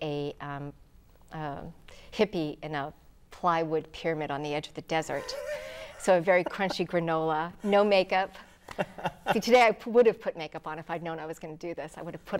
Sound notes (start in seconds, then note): 5.1 laughing